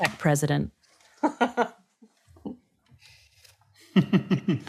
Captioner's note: laughing; laughing